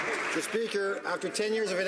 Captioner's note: some Applause